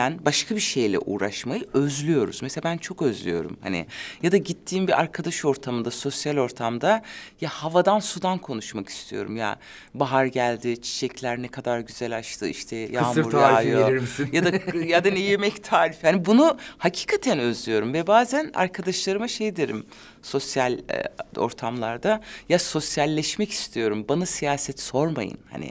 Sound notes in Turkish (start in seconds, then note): 13.8 Gülüyor